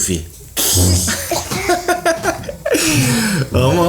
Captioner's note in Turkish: gülüşme sesleri